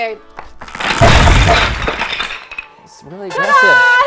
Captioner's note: pieces clattering